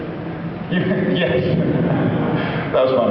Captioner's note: laughs